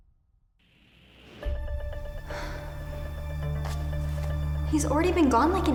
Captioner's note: suspenseful music; Gigi sighs